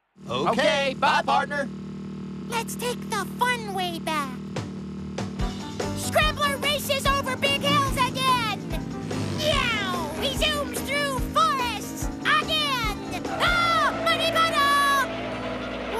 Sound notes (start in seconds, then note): 13.1 tires Screech; 13.2 screams